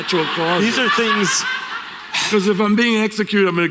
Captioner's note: laughter